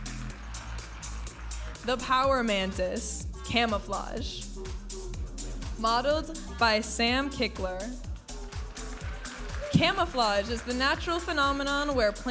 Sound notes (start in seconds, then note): 0.3 upbeat music; 4.7 upbeat music; 8.4 audience applauding and cheering